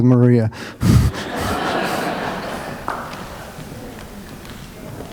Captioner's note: laughter